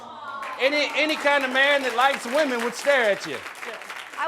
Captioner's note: audience applauding